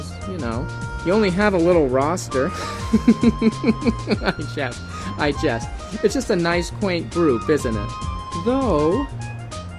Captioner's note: laugh